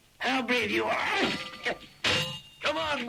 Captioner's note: swords clanging